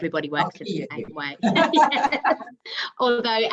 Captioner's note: everyone laughing